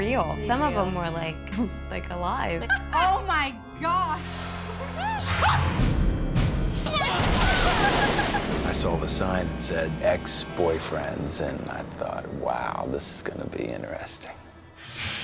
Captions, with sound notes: Some of 'em were like, like alive. - Oh my gosh. (women screaming) (intense music) - I saw the sign that said ex-boyfriends and I thought, wow, this is gonna be interesting.